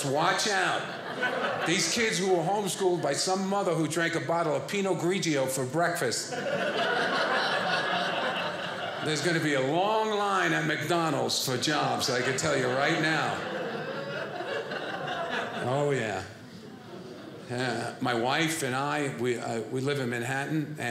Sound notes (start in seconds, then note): 6.1 audience laughing